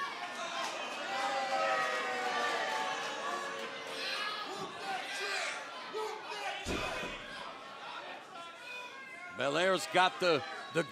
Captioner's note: crowd chatter